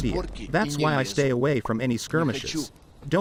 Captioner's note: makes popping sound